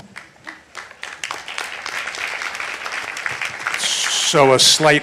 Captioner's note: audience applauding